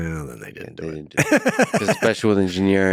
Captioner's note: laughs